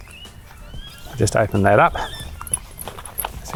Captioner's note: birds chirping